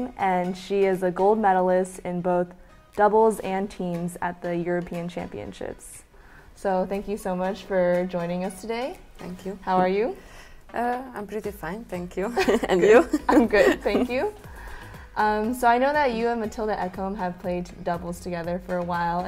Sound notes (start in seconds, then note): 12.4 laughs